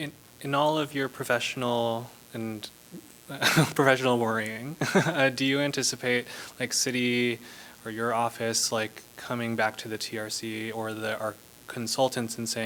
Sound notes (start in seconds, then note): 4.8 laughter